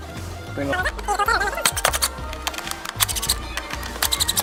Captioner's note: unscrewing